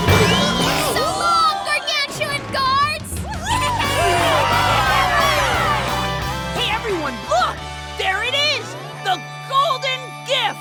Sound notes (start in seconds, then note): 3.0 cheering